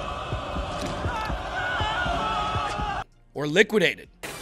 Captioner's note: screams